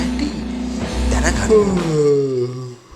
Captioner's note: yawn